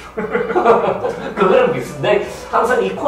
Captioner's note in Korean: 웃음